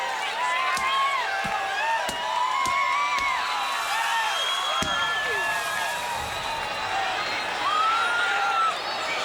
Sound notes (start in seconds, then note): 0.4 fireworks crackling